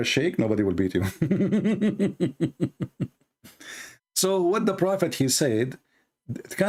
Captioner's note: Ketawa